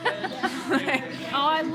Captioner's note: people laughing